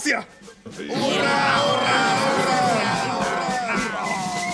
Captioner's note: cheers